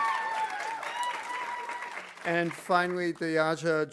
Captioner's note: audience cheering; audience applauding